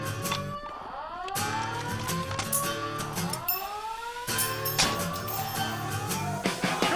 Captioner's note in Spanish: Alarmas sonando